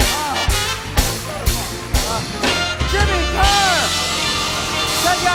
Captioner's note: cheers and applause continue